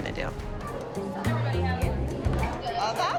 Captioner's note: crowd chattering